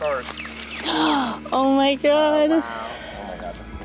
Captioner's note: gasps